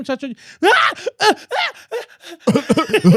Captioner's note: speaking In Foreign Language; screaming